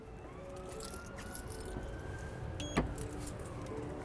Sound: distant siren blares

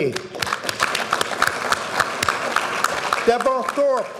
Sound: audience applauding

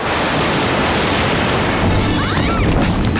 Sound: screams

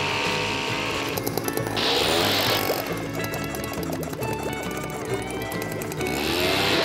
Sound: roaring engine

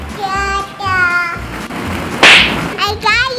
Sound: baby babbles

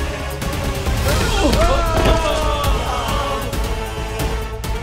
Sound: moaning; thud

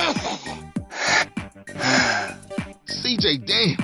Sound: coughing; breathes in and out

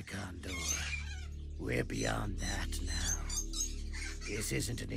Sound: birds squawking

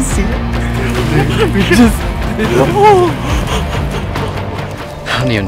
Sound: laughing indistinct cheering

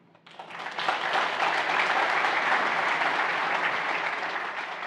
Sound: audience applauding

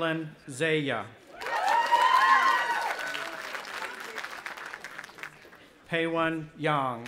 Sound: audience applauding and cheering

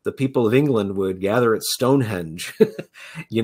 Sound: chuckles

